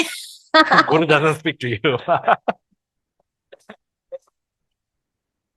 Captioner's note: laughters